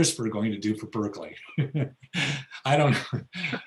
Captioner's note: laughs